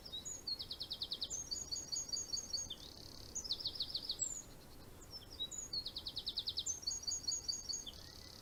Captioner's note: bird singing